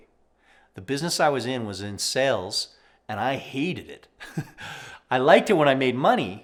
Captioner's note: laughs